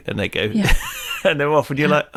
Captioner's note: laughs